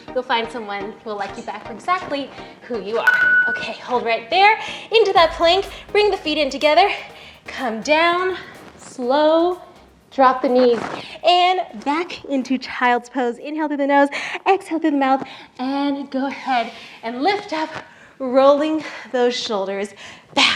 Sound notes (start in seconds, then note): 3.0 beep